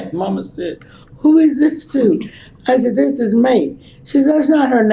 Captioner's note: laughs